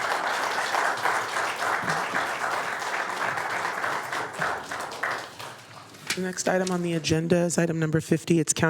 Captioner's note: applause